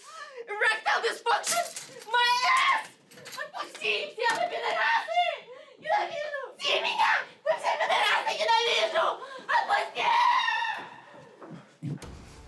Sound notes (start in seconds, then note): 3.3 Veronika yells in Russian